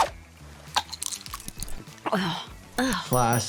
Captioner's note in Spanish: las pastillas suenan